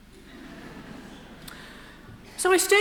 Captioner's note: crowd laughs quietly